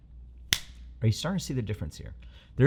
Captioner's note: finger snaps loudly